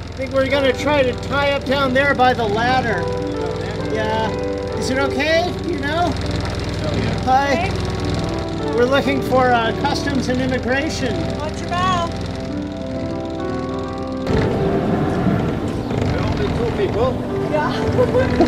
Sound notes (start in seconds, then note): 14.2 engine revving; 17.4 laughs